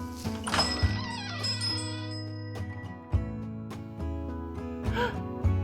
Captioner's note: door creaks; bell rings